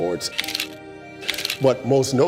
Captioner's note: chiming music; camera cranks